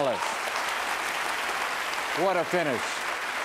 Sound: applause

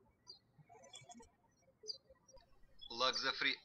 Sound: birds chirping

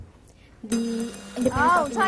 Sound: bell

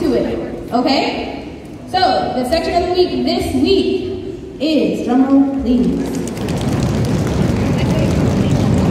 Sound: audience stomping

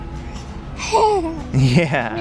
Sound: laughing

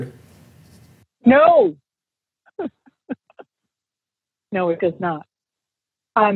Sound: laughs

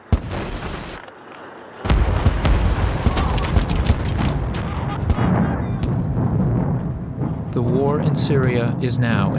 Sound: explosions and gunfire

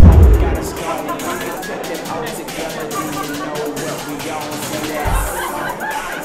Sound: people talking and laughing

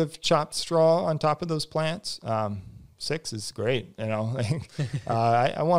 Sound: laughs

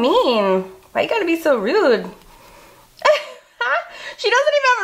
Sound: laughs

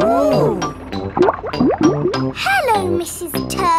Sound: bubbling

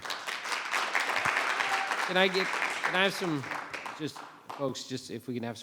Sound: audience clapping

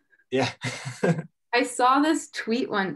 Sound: chuckles

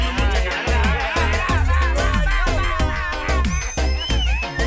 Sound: screams

